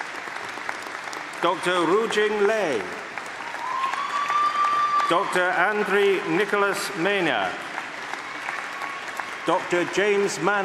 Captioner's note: applause; applause